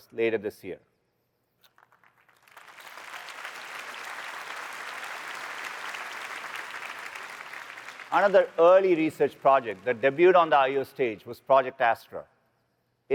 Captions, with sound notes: later this year. [APPLAUSE] Another early research project that debuted on the I/O stage was Project Astra.